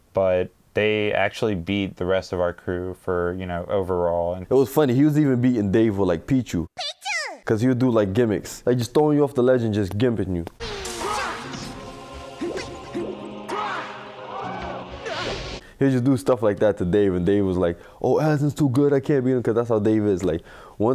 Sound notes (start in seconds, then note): 10.6 in-game sounds